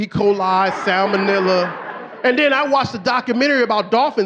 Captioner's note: audience laughing